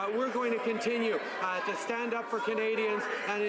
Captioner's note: none